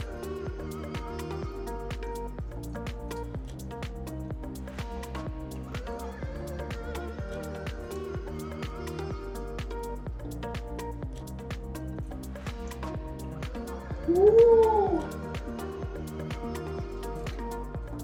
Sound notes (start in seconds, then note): 0.1 medium tempo music; 14.0 hoots